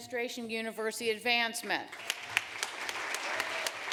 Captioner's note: applause